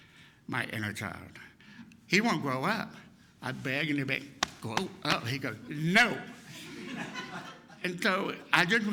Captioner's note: laughter!